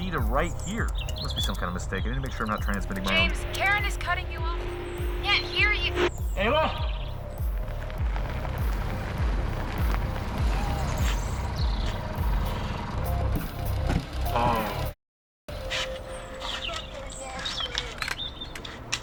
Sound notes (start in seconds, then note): 7.0 static; 8.2 crunching gravel; 8.2 trucks approaching; 10.4 men's voices shouting; 12.4 truck doors closing